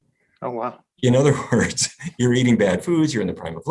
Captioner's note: laughs